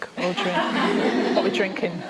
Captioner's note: laughter